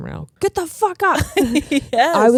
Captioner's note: giggling